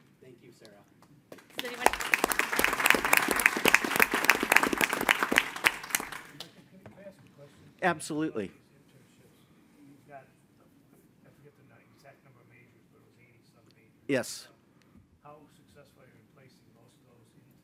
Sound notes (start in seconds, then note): 1.3 audience applauding